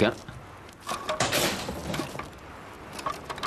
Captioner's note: banging